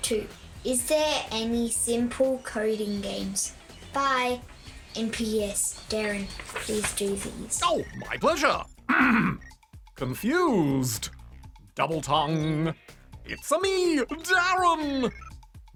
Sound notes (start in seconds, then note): 8.8 clears throat